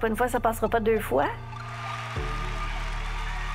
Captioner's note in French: acclamations